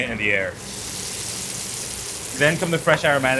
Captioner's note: food sizzles